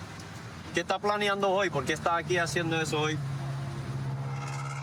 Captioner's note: speaking spanish